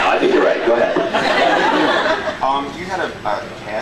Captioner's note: laughs